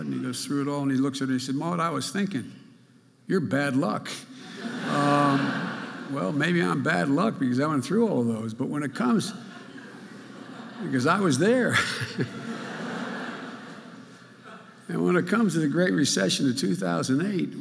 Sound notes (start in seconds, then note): 4.4 audience laughing; 11.7 Joe chuckling